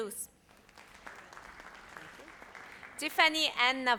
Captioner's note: audience applauds